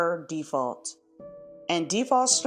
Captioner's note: pause